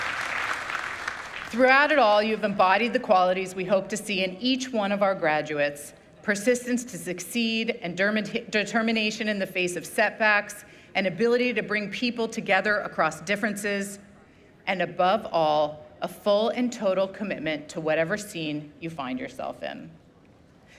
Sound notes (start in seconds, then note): 1.6 applause